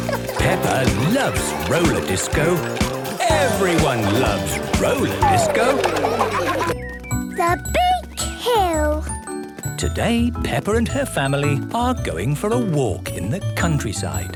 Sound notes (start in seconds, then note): 5.9 laughter